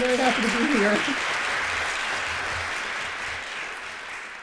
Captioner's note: applause